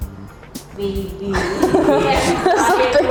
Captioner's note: laugh